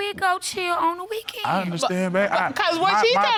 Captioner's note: stammers